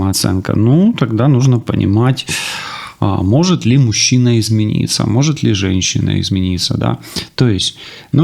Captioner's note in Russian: вздыхает